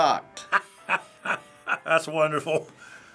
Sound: laughing

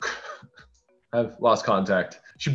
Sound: laughing

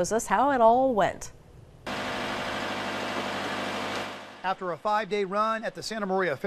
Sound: buzz of lift machine

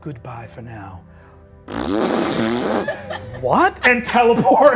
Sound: imitates farting

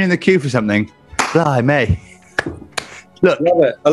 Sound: applauding

